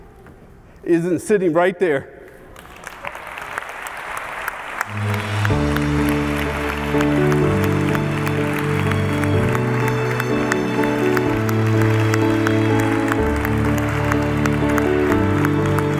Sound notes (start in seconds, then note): 2.6 audience applauds; 5.2 light inspirational music